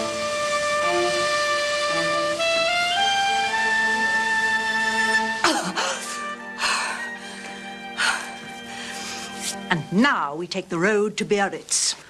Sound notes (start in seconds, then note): 5.0 gasps